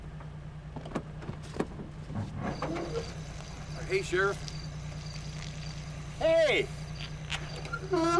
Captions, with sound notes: [door latch opening] [door squeaks] HEY, SHERIFF. HEY!